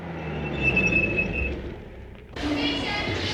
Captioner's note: sound of brakes